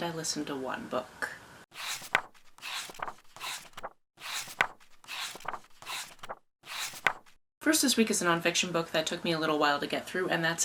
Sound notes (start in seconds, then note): 1.7 pages turning